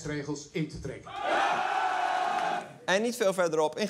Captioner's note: cheering